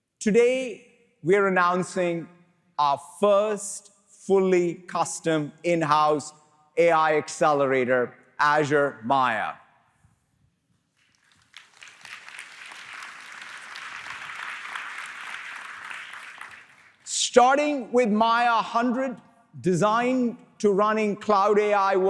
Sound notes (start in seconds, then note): 10.9 applause